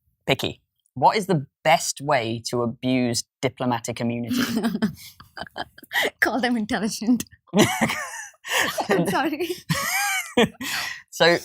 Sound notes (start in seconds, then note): 4.3 laughs; 7.5 both laughing